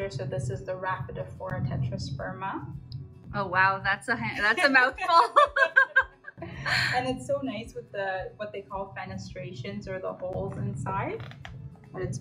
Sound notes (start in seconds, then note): 4.9 both laugh